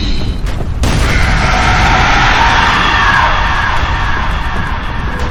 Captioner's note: creature roaring